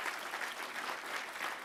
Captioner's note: applause